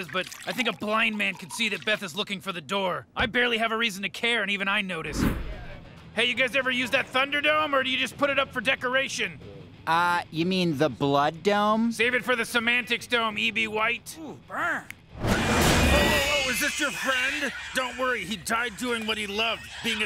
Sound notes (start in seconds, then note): 15.4 rats screaming